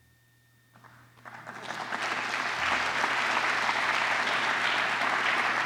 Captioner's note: applause